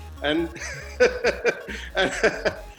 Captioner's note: laughs